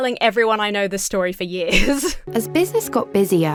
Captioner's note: laughs